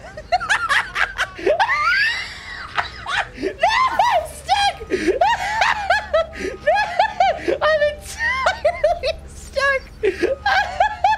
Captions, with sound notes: [laughing maniacally] No, I'm stuck!! [laughter continues] I’m entirely stuck!